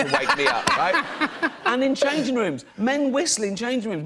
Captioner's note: laughter